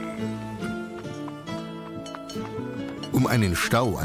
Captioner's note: bell rings